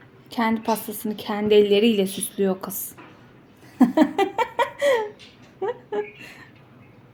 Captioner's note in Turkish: kahkaha